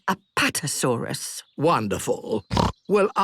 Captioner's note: snorts